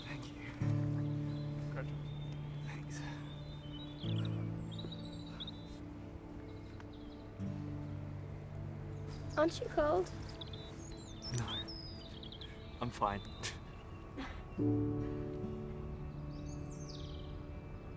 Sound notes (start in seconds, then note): 0.0 soft guitar music; 14.1 laughs